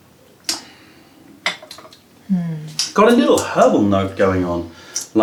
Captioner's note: sips tea